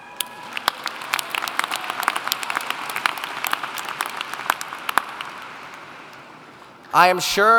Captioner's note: applauding